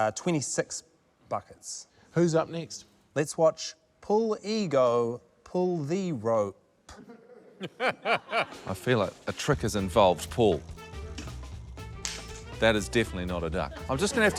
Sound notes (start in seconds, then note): 7.0 laughs; 12.2 clack!